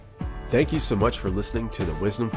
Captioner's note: voiceover